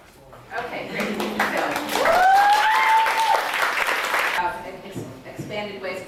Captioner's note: audience applauding and cheering